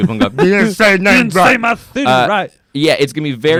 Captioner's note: in funny voice